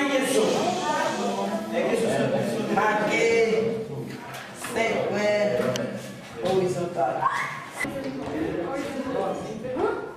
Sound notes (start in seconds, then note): none